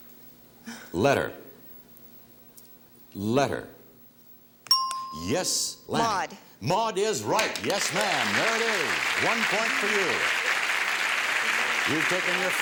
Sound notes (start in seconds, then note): 5.2 ting; 11.6 applause